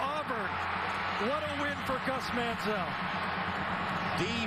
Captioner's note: crowd noise